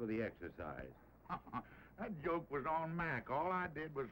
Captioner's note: laughs